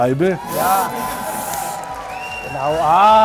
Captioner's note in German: Jubel, Applaus